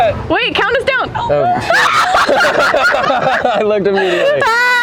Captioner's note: both laughing